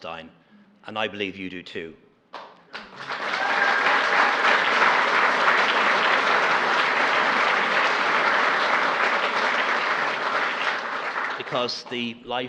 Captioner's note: applause